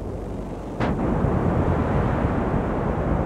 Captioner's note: huge explosion